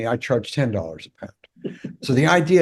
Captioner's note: laugh